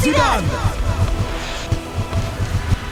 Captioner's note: in Spanish